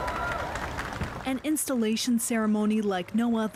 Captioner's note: cheers and Applause